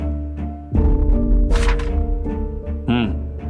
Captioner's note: flipping pages